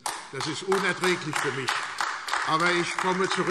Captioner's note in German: Beifall AfD